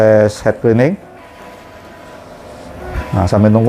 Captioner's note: printer machine noise